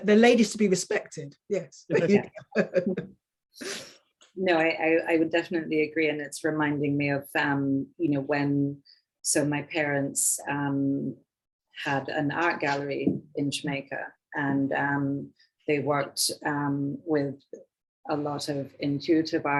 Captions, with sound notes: the ladies be respected, yes. (woman chuckling) - No, I would definitely agree and it's reminding me of, you know, when, so my parents had an art gallery in Jamaica and they worked with a lot of intuitive artists